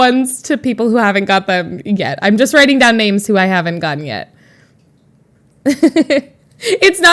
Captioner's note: Emma laughs